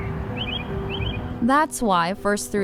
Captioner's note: birds chirping